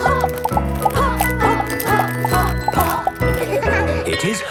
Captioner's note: laughter